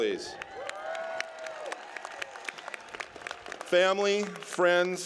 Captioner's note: applause